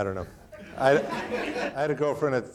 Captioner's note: audience laughing